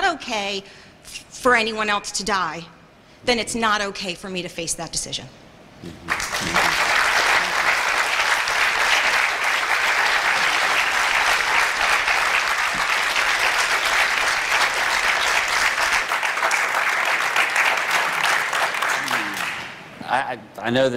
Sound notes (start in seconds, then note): 6.0 applause